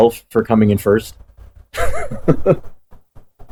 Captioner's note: laughs